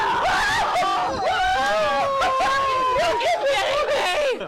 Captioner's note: screaming